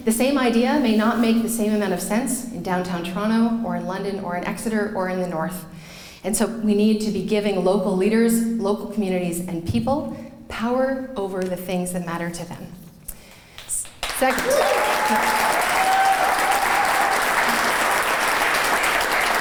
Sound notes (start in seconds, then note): 13.5 clapping